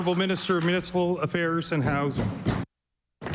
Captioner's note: applause